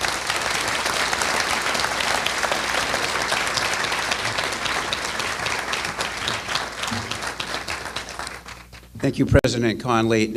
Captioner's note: applause